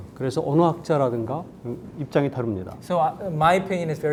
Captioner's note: speaking in Korean